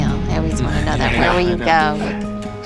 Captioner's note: laughs